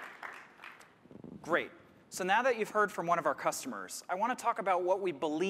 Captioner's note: applause